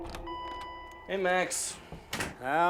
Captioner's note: door bell dinging